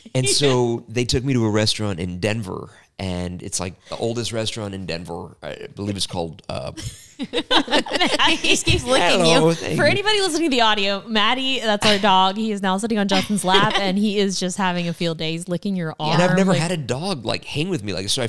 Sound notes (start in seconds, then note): 6.7 laughing